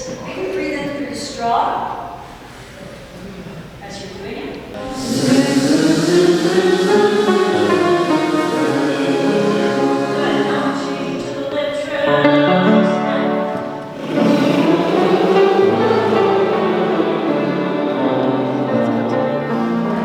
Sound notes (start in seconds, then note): 4.8 vocalizations on Z-Z-Z-Z-Z; 13.9 vocalizations on br-br-br-br-br